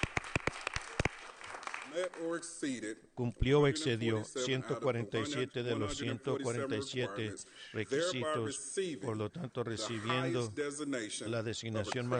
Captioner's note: applause